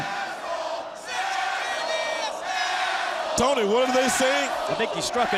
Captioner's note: crowd cheering